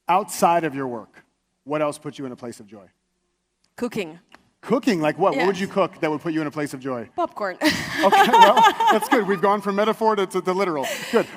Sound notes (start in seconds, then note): 7.7 laughs